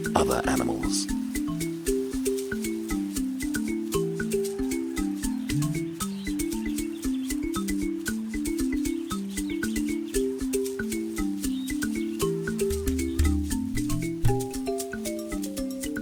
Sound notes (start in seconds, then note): 0.9 soft music; 4.8 birds chirping; 7.4 soft music